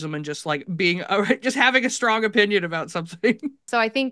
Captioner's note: laughs